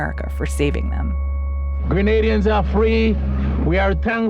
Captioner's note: soundbite of archived recording